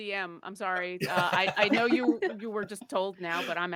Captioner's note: group chuckles